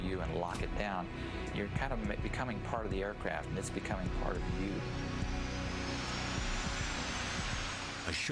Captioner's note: engine accelerates